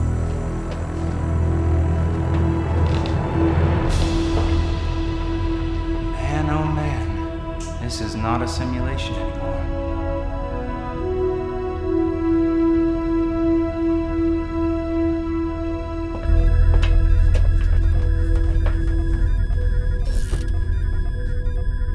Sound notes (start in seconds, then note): 10.2 mystical music continues; 16.2 monitors beeping and whirring